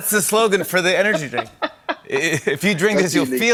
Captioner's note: laughing